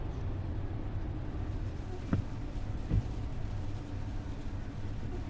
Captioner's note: rain spattering